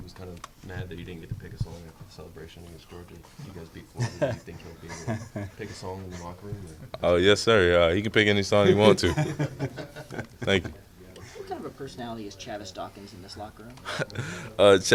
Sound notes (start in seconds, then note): 4.0 laughs; 8.6 interviewers laughing